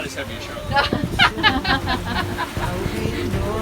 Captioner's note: all laughing